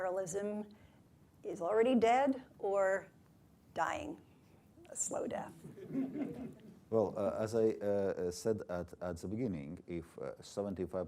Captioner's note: laughter